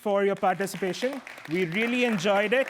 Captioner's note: applause